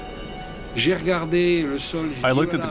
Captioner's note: speaking in French